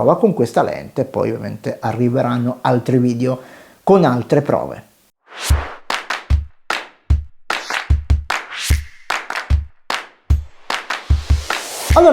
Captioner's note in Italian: Applauso